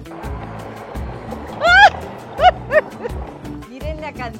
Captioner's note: laugh